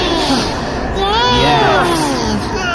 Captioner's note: screaming